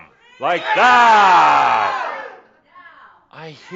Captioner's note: audience yells “Freedom!”